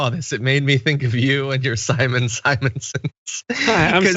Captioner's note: laugh